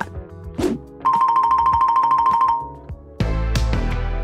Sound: screen whooshing; twinkling music; upbeat music

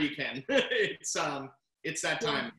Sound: laughs

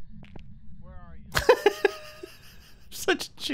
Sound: laughs

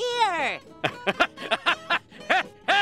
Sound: laughing

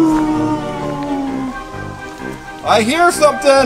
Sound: wolf Howling

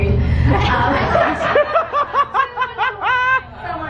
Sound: laughing

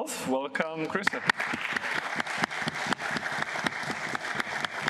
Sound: applause

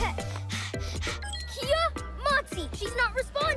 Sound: panting

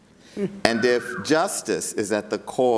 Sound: audience member whistles

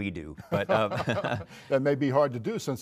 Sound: laughter

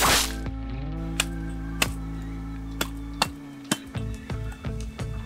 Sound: machete thudding

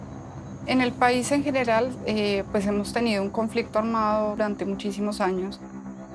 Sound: speaking in foreign language

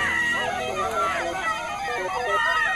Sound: indistinct shouting, screaming

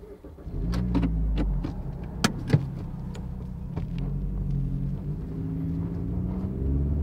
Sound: car engine

